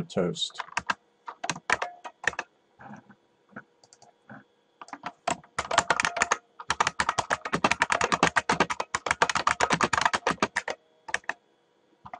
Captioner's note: typing